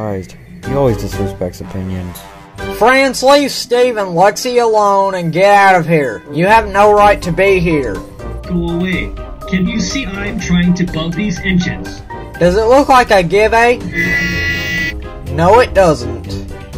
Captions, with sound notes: He always disrespects opinions Franc leave Steve and Lexi alone and get out of here You have no right to be here. Go away! Can't you see I'm trying to bug those engines?! Does it look like I give a (HORN)? No it doesn't